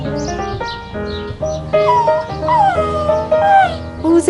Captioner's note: whimpers